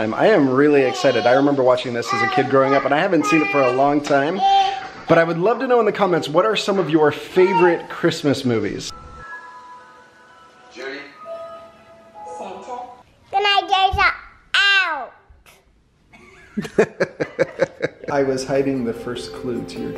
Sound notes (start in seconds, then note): 16.2 laughing